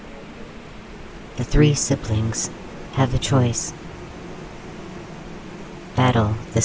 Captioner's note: the swarm hums